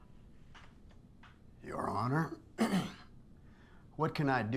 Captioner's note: clears throat